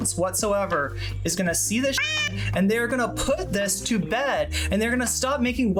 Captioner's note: meow